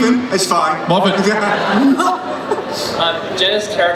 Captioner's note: laughing